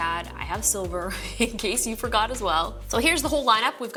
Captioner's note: chuckles